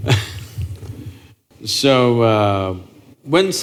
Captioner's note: laughs